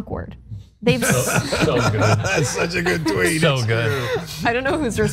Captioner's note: laugh